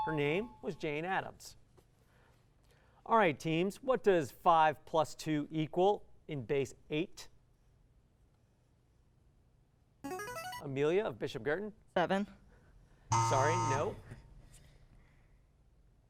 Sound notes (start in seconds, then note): 9.9 buzzer